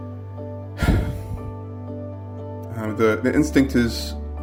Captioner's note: sigh